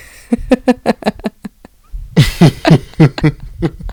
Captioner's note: laughter